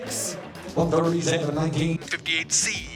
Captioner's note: rapid auctioneering